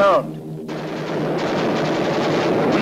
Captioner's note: guns firing